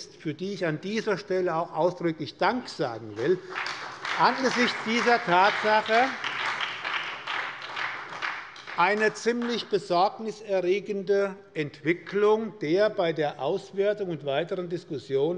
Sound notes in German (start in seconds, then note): 5.2 Beifall bei der SPD